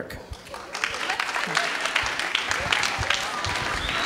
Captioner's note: clapping